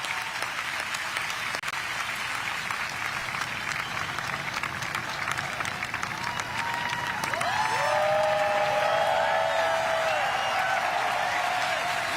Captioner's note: applause